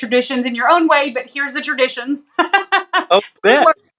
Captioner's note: laugh